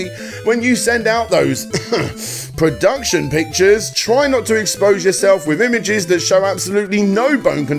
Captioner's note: cough